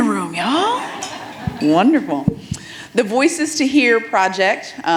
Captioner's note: audience members laugh